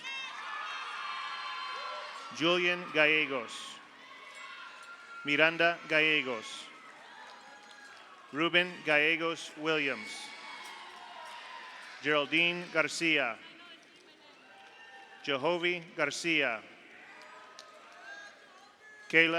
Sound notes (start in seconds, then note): 0.0 audience cheers; 0.3 audience applauds; 4.0 audience applauds; 4.0 audience cheers; 6.8 audience applauds; 6.8 audience cheers; 10.2 audience cheers; 11.4 audience applauds; 14.4 audience cheers; 16.8 audience applauds; 16.8 audience cheers